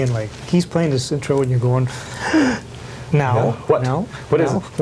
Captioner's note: gasp